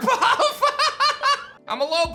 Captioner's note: laughs